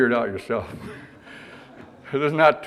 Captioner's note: audience laughter